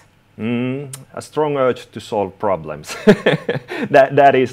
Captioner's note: laughing